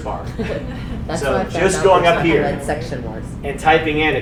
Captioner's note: audience laughing